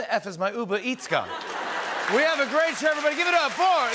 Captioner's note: laughter and applause